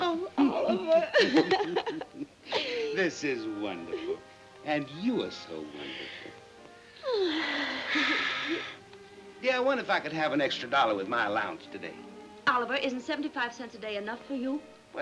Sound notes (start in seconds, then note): 0.4 both laughing; 6.8 sighs